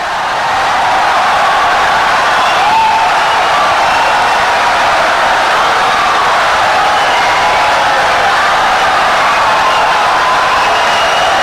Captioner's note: wild applause and cheering for 17 seconds